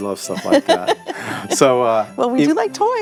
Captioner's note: Mrs. Claus laughing